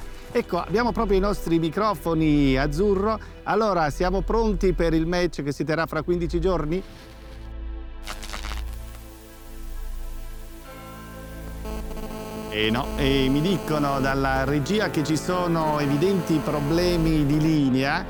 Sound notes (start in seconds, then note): 8.0 short circuit and glitch of the microphone; 9.6 microphone buzzes